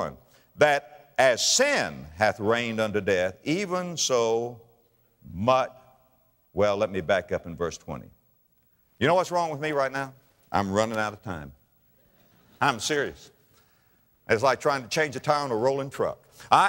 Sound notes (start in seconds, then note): 11.8 audience laughter